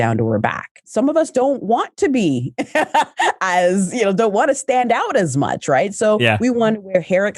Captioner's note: laughs